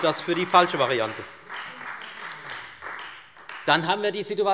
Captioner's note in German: Beifall Freie Demokraten